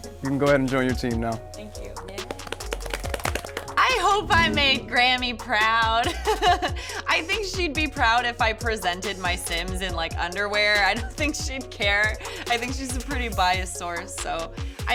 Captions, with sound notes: You can go ahead and join your team now. - Thank you. (clapping) - I hope I made Grammy proud. I think she'd be proud if I presented my Sims in like, underwear. I don't think she'd care. I think she's a pretty biased source so.